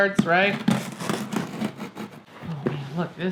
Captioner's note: knife cutting box